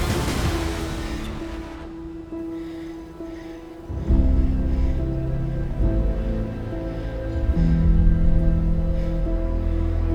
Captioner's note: heavy breathing